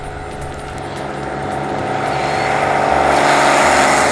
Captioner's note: plane roaring